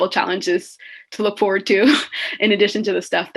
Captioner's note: chuckles